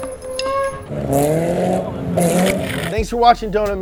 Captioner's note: engine revving